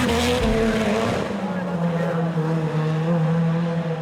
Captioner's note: car revving